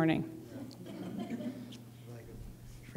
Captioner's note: soft laughter